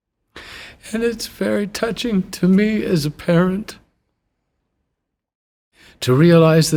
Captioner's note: tearfully